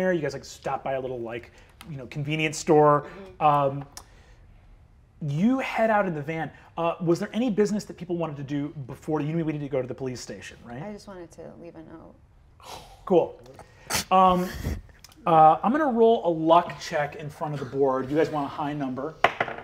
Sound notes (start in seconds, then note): 14.2 laughs; 19.2 die taps table